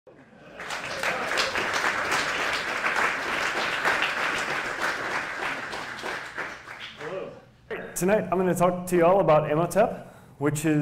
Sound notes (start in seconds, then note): 0.4 applause